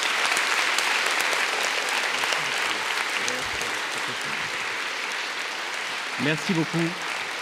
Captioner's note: applause